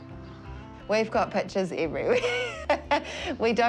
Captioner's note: laughs